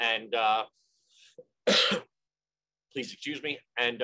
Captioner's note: coughing